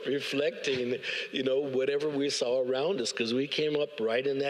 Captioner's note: audience laughs